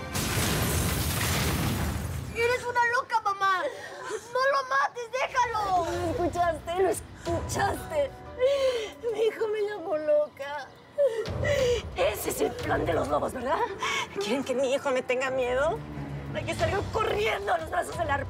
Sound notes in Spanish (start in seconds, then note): 6.4 Sollozos